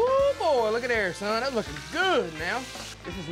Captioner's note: sizzling sounds